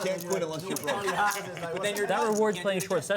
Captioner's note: laughs